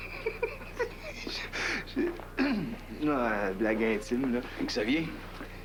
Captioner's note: Il rit